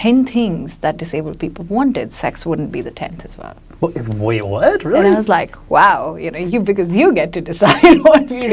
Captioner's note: laughs